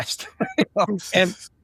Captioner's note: laughing